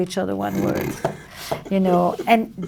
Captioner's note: laughs